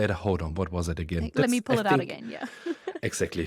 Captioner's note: laughs